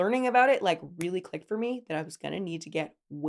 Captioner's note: fingers clicking